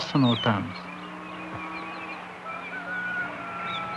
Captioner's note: cattle mooing; rooster crows